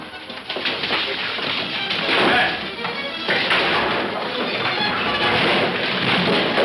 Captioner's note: fists thudding; suspenseful music